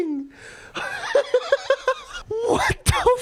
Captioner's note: wheezing